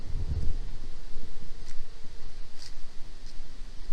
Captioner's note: trees blowing in the wind